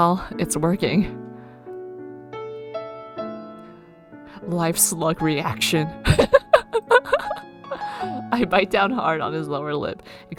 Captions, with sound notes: Live slug reaction. [laughs]